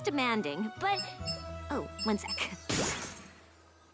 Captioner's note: chimes